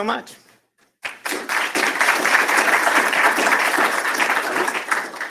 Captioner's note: applause